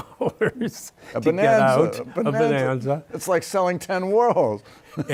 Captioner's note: laughter